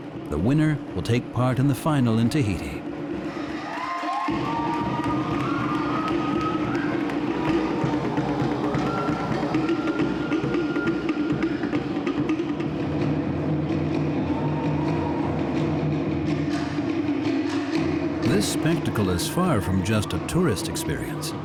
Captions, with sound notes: The winner will take part in the final in Tahiti. -[drums beating] -[cheering and applause] This spectacle is far from just a tourist experience.